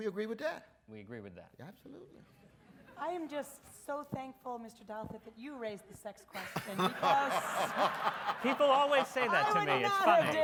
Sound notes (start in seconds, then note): 6.4 audience laughs